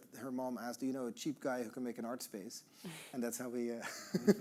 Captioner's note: all laughing